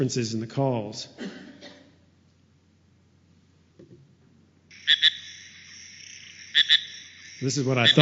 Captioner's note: sounds of frog calls